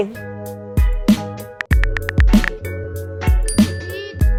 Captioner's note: upbeat music; keyboard keys clacking; upbeat music; bell ringing